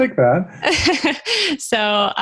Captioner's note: laughing